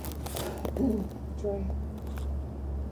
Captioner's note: clearing throat